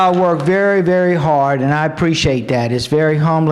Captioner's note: applause